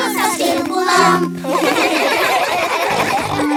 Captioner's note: laughing